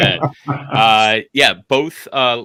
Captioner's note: laughs